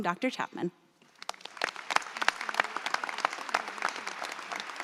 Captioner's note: audience applauds